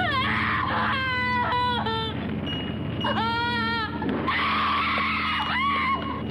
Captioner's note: scream